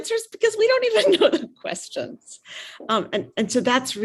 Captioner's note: chuckles